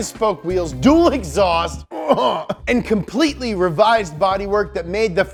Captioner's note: grunts